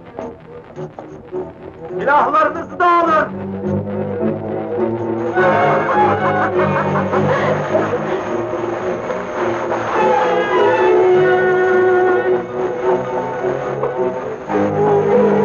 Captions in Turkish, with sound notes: [Meşum kahkahalar]